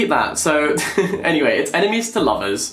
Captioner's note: laughs